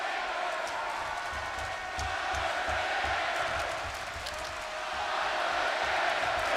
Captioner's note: audience chanting and clapping